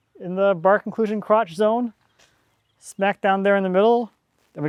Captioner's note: none